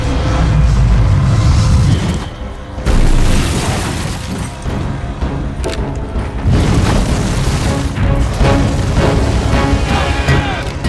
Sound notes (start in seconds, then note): 2.8 explosions; 9.7 gang shouts